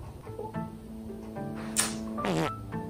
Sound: kissing

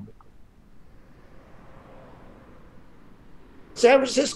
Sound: vehicles whooshing

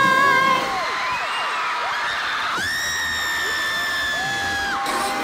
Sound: shrieking

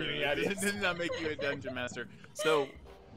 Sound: laughing

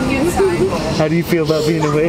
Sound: laughing

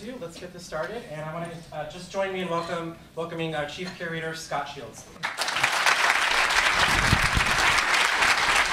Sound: applause

